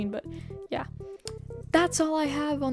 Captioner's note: clicks tongue